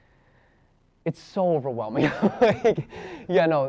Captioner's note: chuckles nervously